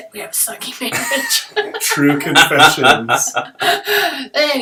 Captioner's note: laughter